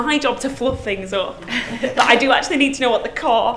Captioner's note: laughs